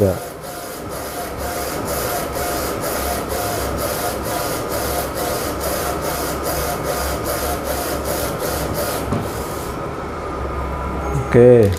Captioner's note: printer machine noise